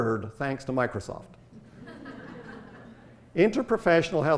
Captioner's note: audience laughter